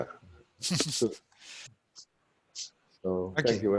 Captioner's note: laughs